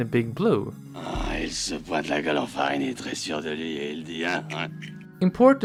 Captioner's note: french noises